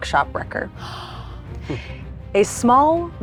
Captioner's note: Mayanna gasps